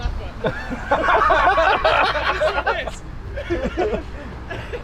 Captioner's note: both laugh